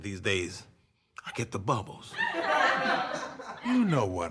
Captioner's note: audience laughs